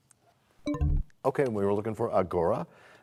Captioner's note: bell chimes, time expires